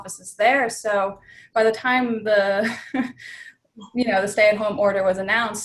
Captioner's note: laughs